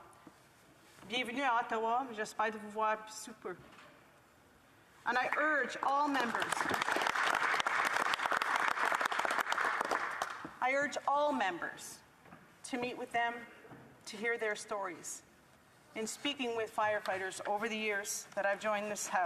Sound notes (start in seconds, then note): 10.9 applause